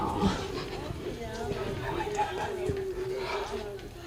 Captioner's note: children laughing